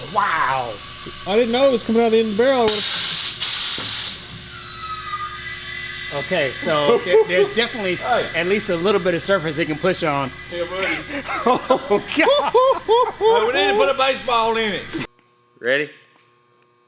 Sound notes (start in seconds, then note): 3.2 air gushing; 10.6 laughs loudly